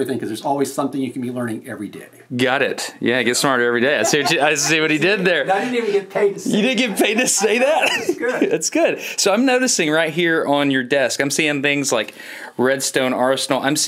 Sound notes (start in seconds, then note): 4.0 laughs; 7.7 laughs